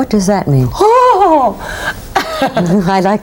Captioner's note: gasping